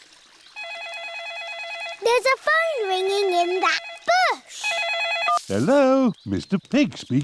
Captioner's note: ringing